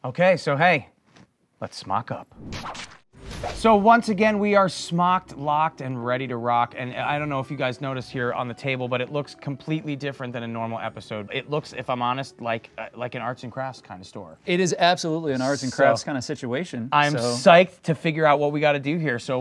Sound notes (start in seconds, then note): 2.3 whooshing